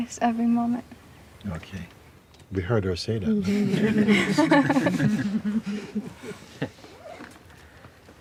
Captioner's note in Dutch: gelach